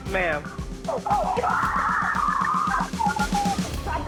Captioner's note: scream